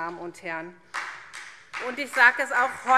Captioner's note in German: Beifall SPD und DIE LINKE